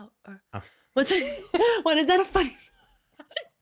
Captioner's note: giggling